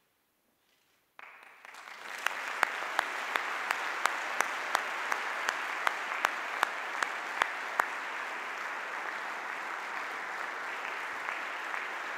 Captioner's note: audience applause